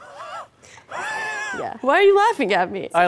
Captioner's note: laughs